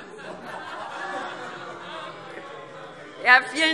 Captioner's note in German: Allgemeine Heiterkeit